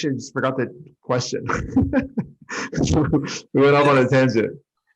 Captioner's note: speaker laughing